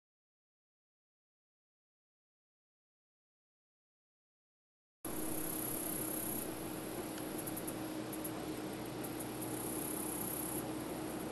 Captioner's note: nature sounds